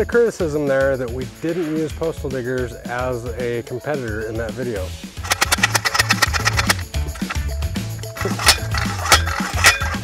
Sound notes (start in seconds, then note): 5.2 clicking noise